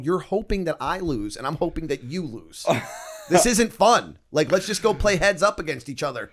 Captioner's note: laughter